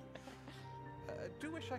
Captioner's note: chuckles